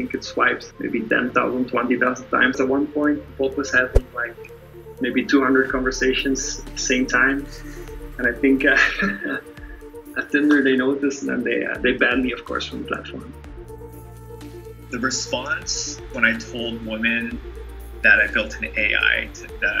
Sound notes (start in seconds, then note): 8.8 chuckles